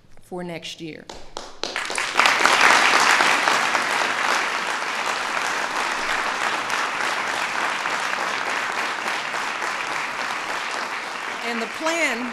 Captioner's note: applause